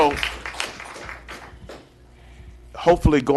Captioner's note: applause